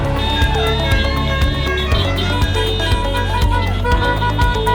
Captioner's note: musical car horn